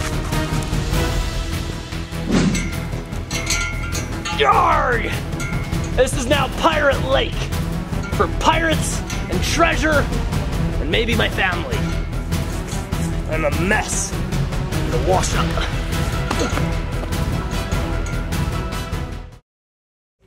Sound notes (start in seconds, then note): 1.6 air whooshing; 16.2 grunts